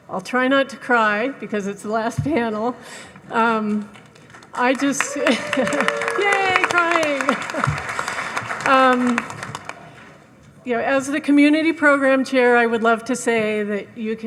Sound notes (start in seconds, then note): 4.2 audience applauding; 5.2 laughs; 7.8 claps